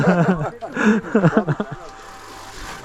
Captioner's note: laughs